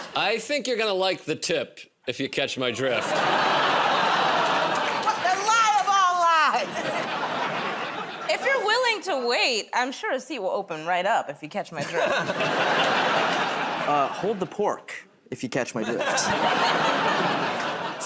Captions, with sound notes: -I think you're going to like the tip, if you catch my drift. [ Laughter, groaning ] -The lie of all lies! [ Laughter ] -If you're willing to wait, I'm sure a seat will open right up, if you catch my drift. [ Laughter ] -Hold the pork, if you catch my drift. [ Laughter ]